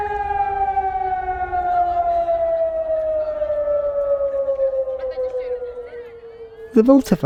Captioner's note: air raid siren ends